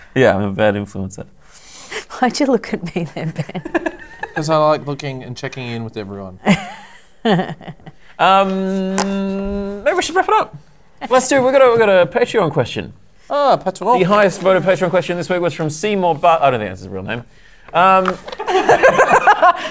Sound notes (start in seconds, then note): 3.2 laughing; 6.4 giggle; 18.4 laughter